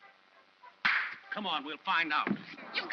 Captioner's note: claps hands